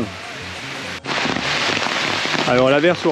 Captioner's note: rain